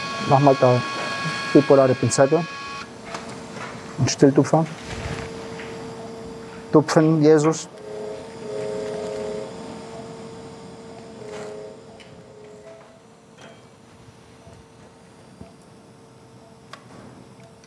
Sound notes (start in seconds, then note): 8.3 low machine whirring